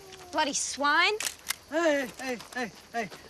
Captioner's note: camera clicks